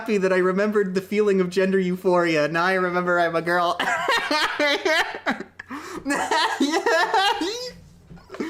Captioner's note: laughter